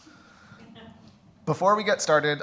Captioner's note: audience laughs